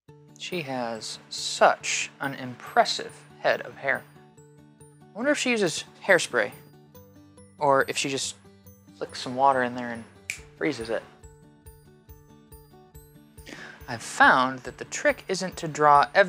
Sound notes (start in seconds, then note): 10.2 snaps fingers; 12.4 light, whimsical music